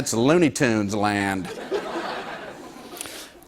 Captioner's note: laughter